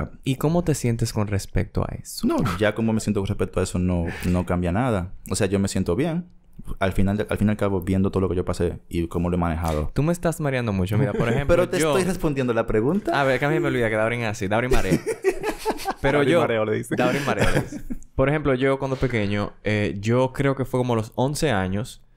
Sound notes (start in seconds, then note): 11.0 laughs; 16.8 laughs